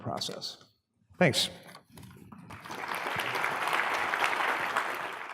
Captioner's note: applause